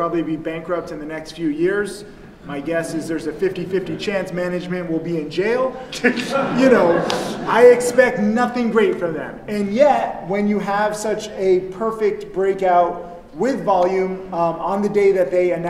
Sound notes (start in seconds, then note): 5.8 crowd laughs; 5.9 speaker chuckles